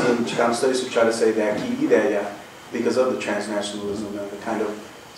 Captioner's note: non-english